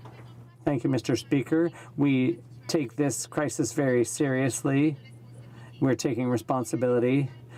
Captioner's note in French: voix de l'interprte